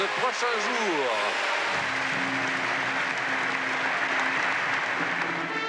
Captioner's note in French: applaudissements